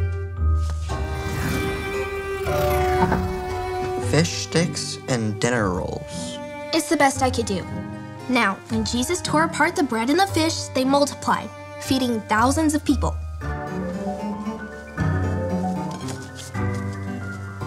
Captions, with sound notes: (loud whooshing) - Fish sticks and dinner rolls? - It's the best I could do. Now, when Jesus tore apart the bread and the fish, they multiplied, feeding thousands of people. (soft mysterious music)